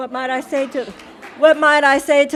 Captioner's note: audience applauding